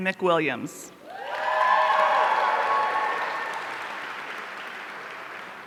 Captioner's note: audience cheering